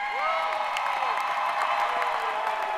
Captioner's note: cheering